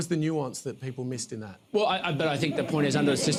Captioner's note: laughter